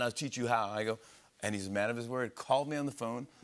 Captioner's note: normal voice